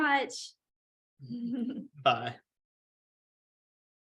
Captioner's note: laughter